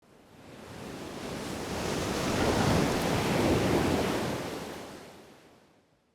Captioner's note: waves crashing